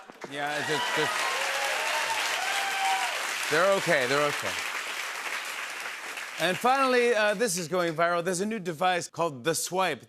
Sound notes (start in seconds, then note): 1.6 cheers and applause